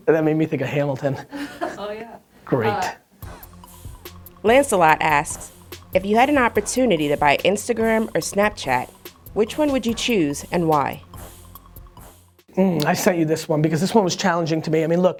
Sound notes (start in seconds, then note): 1.4 laughs; 4.6 voiceover